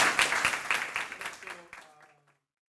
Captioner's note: applause